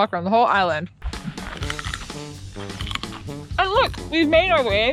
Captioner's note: carrot crunching